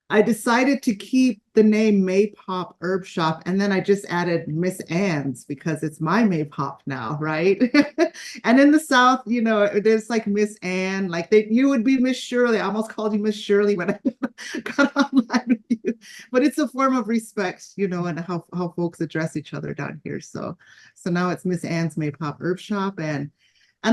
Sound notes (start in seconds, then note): 7.8 laughs; 13.7 laughs